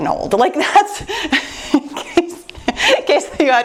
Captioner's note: laughs